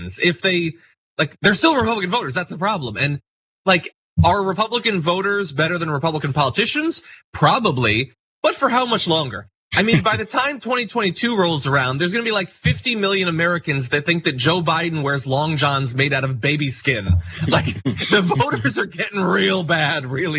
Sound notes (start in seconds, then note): 9.8 laugh